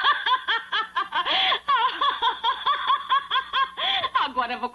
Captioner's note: laughing